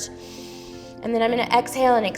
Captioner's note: inhales